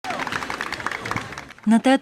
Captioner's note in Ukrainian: Оплески